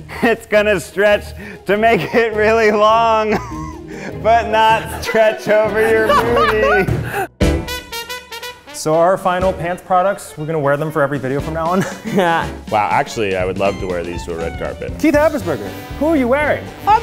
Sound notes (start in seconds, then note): 4.6 laughing